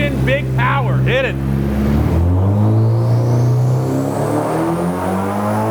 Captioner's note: engine continues revving